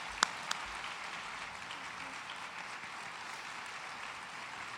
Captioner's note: applause